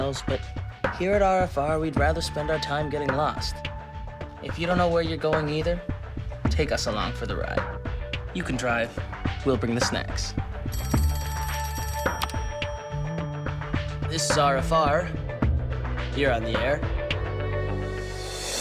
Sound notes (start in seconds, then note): 10.7 phone rings; 12.2 clicks